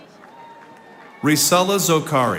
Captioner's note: audience applauding